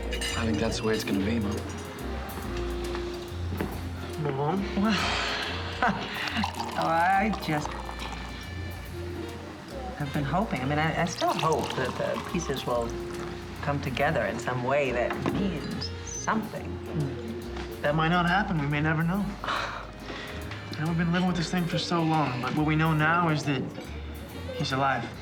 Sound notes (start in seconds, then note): 5.6 laughs; 19.1 sighs